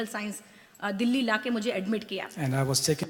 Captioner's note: speaks foreign language